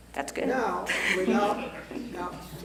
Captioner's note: laugh